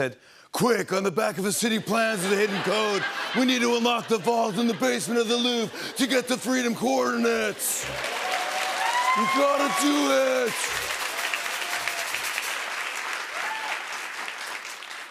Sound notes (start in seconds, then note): 7.0 laughter and applause; 11.0 cheers and applause